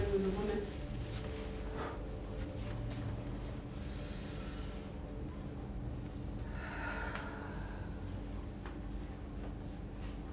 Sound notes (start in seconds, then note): 3.9 breath in; 6.5 breath out